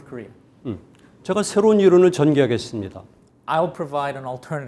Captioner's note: speaking in Korean